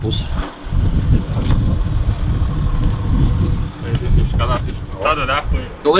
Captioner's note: car engine is running in background